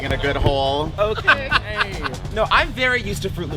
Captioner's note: laughter